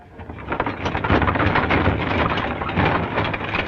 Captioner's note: rattling